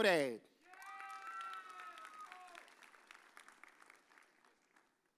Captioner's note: audience cheers